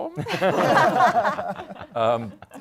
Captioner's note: laughter